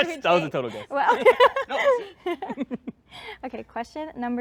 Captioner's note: laughter